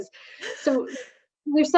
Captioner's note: laughs